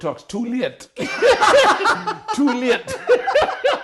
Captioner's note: laughing